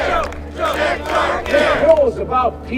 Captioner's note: chanting